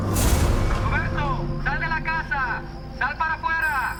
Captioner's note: officer speaking spanish